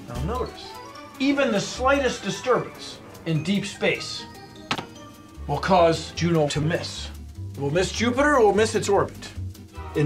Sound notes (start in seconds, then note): 4.7 tap